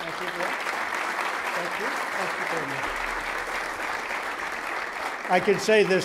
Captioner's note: applause